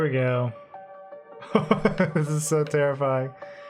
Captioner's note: laughs